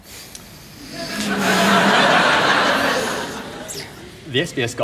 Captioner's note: laughter